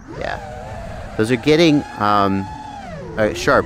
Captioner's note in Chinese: 振動